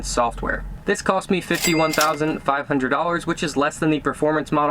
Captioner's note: registers rings